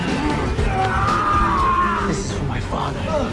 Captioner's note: dramatic music; man yelling